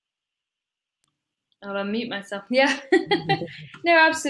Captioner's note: laughs